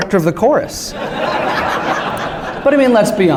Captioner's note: laughter